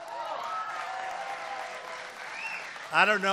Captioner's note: applause